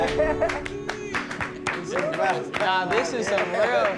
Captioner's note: applause